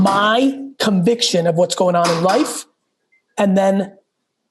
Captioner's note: none